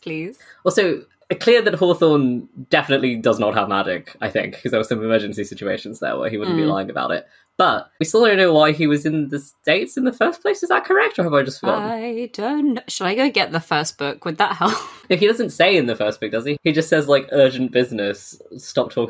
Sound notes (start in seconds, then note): 14.0 sing-song